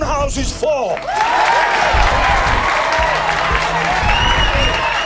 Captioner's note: all cheering